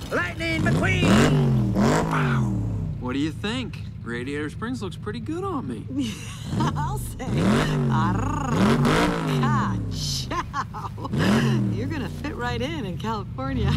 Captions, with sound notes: Lightning McQueen. (engine rumbles) - Wow, what do you think? Radiator Springs looks pretty good on me. (chuckling) - I'll say. (trills tongue) Ka-chow, you're gonna fit right in in California.